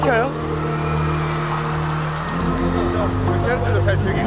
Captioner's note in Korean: 점점 더 거세지는 비